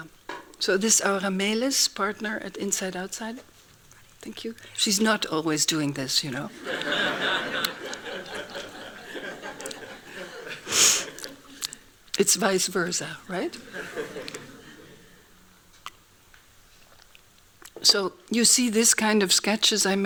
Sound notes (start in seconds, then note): 6.5 laughing; 13.4 laughing